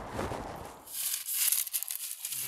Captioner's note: rustling